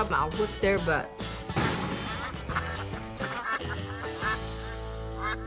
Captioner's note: ducks quacking